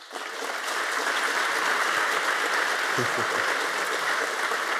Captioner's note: applause